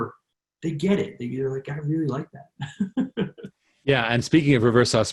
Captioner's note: laughs